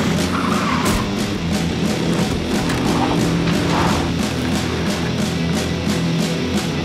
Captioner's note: tires squeal